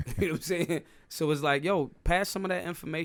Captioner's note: laughing